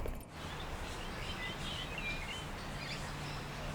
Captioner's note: birds chirping